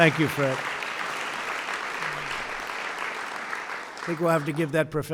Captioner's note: applause